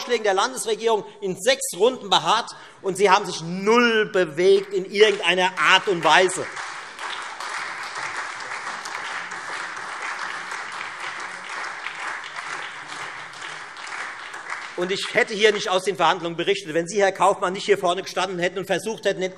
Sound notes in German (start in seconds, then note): 6.6 Beifall Freie Demokraten und SPD